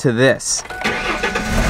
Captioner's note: turns on car; car's exhaust sounds